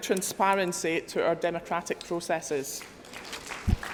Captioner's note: applause